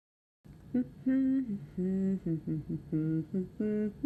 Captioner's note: humming